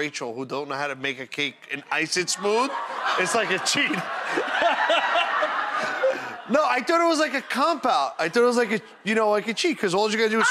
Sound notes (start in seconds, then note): 2.0 audience laughing; 5.6 laughing